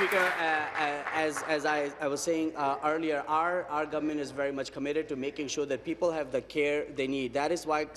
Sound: applause

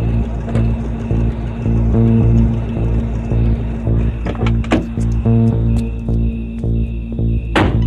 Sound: engine idling

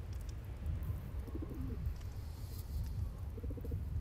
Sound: dove coos softly

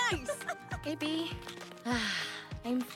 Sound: sighs

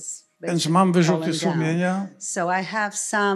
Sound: foreign language

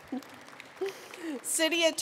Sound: attendees applauding

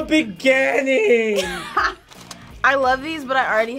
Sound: React laughs

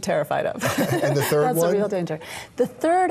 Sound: laughing

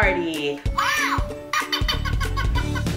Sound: Elmo giggles

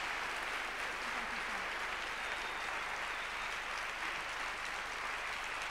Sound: audience clapping; drowned out by applause

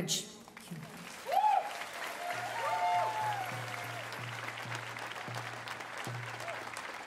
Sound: speaking Indigenous LANGUAGE; cheers and Applause

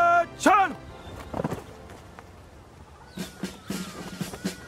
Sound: feet stomping; upbeat marching band music

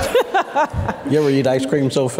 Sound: laughing

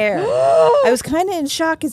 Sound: gasps

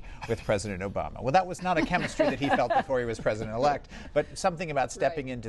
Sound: laughter

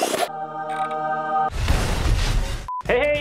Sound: crash

